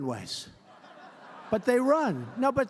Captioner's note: laughter